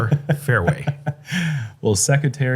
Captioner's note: chuckles